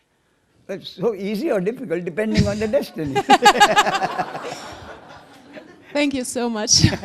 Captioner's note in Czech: smích